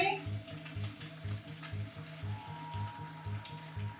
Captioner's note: sizzling